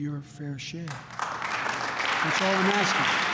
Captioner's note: applause